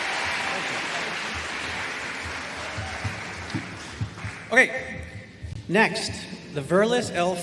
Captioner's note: applause